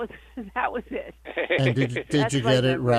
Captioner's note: chuckles